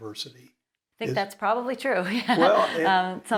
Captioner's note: laughs